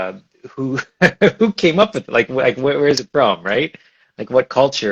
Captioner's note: laughs